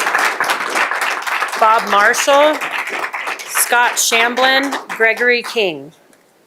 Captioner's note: applause